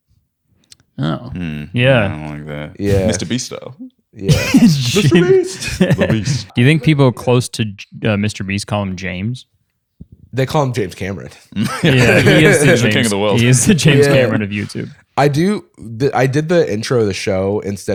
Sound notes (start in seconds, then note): 4.3 laughter; 11.6 laughter